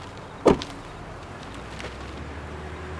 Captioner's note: Car door closes